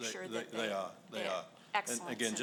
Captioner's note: voiceover